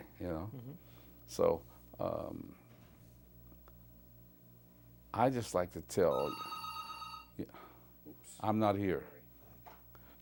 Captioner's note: phone rings